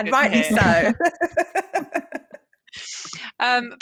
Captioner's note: chuckles